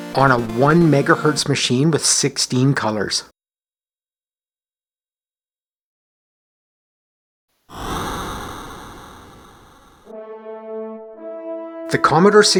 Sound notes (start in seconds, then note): 7.7 8-bit crowd cheering; 10.0 trumpet flourish